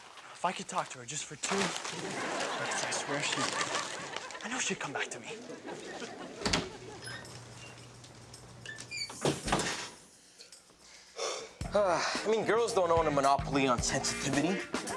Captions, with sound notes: If I could talk to her just for two minutes I swear she... I know she'd come back to me. (upbeat techno music) - (sigh) I mean, girls don't own a monopoly on sensitivity.